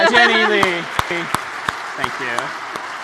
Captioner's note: applause